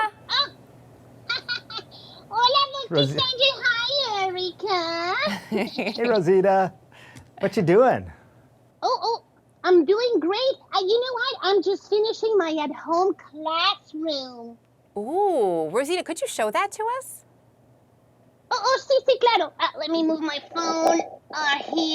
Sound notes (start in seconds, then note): 1.2 laughter; 2.3 speaking Spanish; 18.2 speaking Spanish